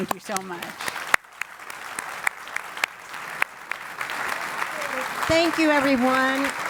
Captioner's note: applause